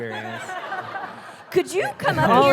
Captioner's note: audience laughing